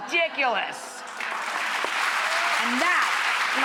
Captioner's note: clapping